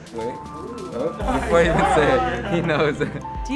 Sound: laughing

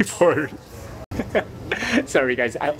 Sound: chuckle

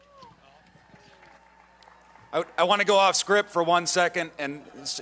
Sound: applause

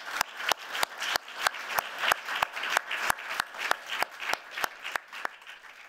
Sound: applause

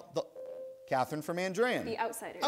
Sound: ding

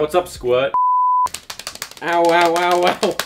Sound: thighs slapping

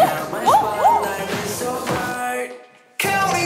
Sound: rushing

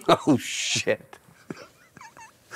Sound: laughing

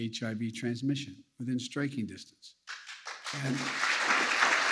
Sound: applause

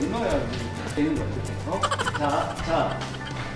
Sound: haha

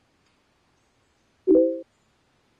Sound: dinging

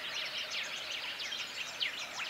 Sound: birds chirps

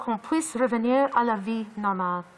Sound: speaking in French

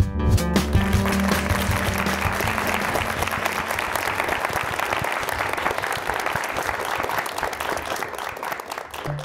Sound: applause

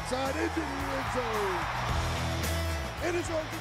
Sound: crowd cheers

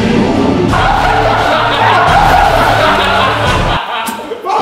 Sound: dramatic music plays; group laughs

